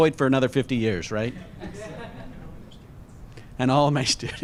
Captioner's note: laughter